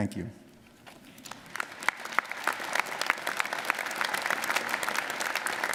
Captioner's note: audience applauding